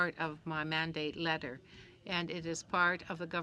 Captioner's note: speaking in french